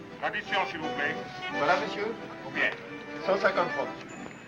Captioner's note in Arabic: الصوت المنطوق بالإيطالية